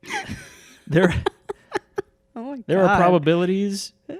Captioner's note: laughs